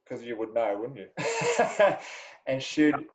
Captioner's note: laughs loudly